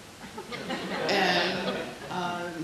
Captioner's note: laughing